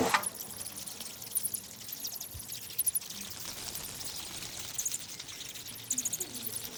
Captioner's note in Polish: piski nietoperzy